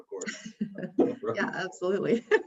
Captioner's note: laughs